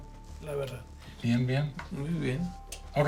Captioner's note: both speaking Spanish